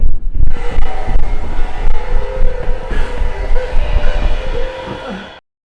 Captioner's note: screech